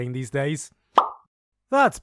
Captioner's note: pop